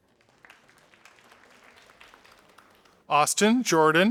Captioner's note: audience applauding